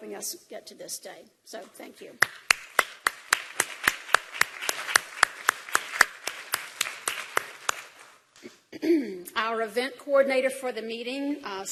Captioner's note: applause